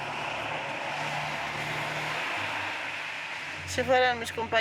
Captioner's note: cars whooshing; speaking in foreign language